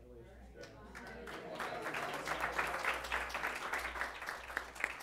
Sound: applause

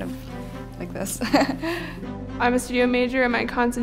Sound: chuckling

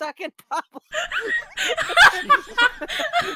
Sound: wheeze

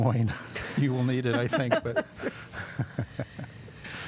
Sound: laughter

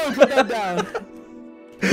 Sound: laughing

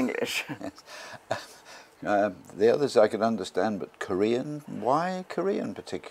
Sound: laugh

